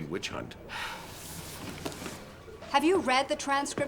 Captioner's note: sighs